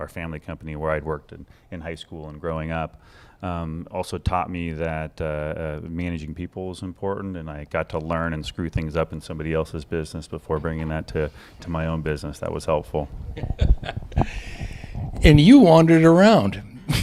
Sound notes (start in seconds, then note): 13.3 laughter